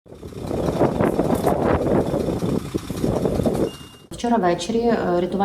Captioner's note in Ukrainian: шум вітру